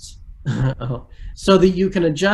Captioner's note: giggles